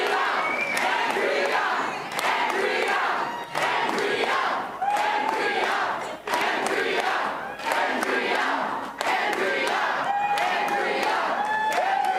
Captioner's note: Crowd chanting "Andrea"